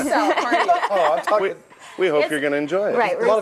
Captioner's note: laughing